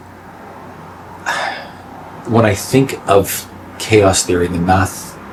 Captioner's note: sigh